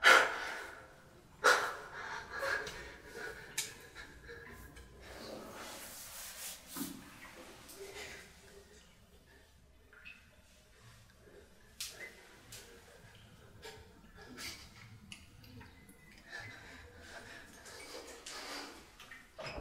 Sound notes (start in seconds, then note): 0.1 loud exhaling; 5.5 rustling